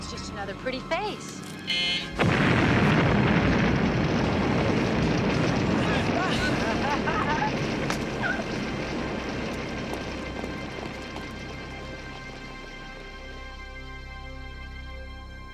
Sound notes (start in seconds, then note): 1.6 buzzer beeping; 2.7 booming explosions; 6.2 ladies laughing